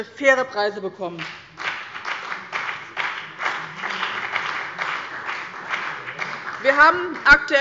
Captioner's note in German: Beifall bei dem BÜNDNIS 90/DIE GRÜNEN und der CDU